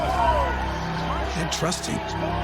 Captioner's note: crowds cheering